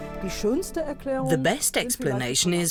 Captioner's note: speaking German